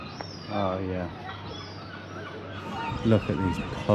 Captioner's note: seagulls cawing